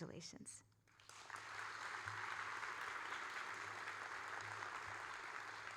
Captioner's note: audience applauding